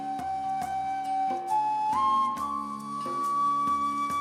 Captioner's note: none